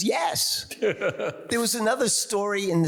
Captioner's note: laughs